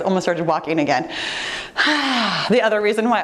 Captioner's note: sighs